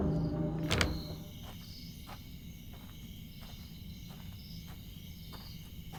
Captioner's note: A night filled with cicadas